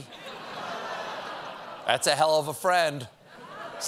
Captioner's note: audience reacts